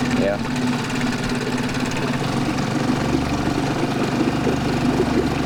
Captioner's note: boat motor rumbling